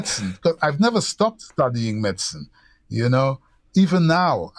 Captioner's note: laughter